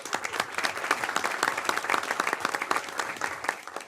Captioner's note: applause